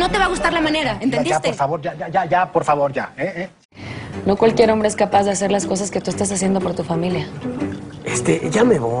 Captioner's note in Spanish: none